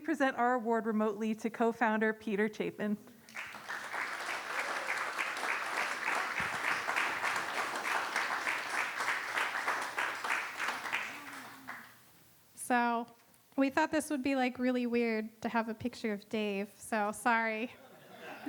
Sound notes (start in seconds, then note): 8.7 applause